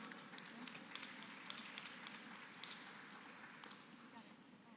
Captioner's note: applause